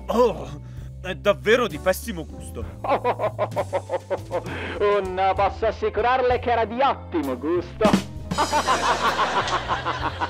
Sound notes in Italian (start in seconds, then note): 8.3 Risate